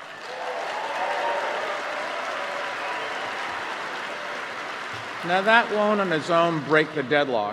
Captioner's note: applause